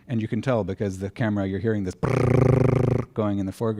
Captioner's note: motor sound